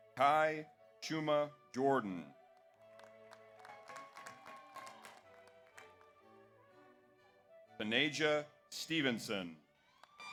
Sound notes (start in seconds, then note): 2.5 audience applauds; 3.4 audience cheers